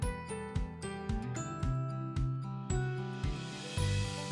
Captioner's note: gently chiming bells